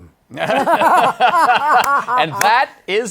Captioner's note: laughter